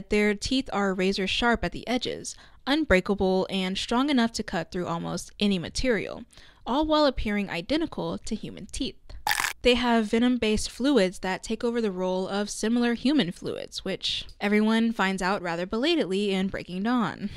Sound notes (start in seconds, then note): 9.2 chomp